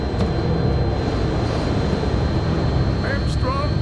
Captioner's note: wind howling